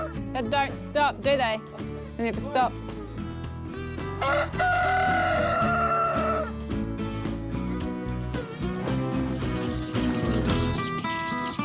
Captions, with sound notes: They don't stop, do they? They never stop. (CROWS) (LAIDBACK MUSIC) (PEN SCRATCHES)